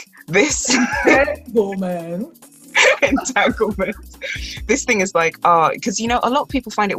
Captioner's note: laughs; laughs